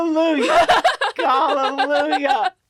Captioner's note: laughs